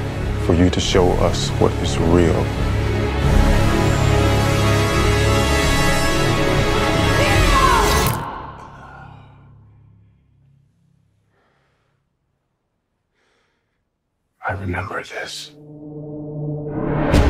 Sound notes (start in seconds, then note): 8.5 exhales sharply; 13.0 breathes heavily